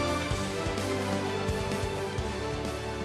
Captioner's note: applause